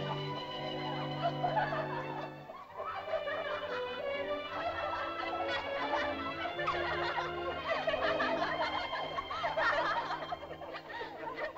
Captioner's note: excited laughter; leaves rustle; sentimental music; excited laughter; sentimental music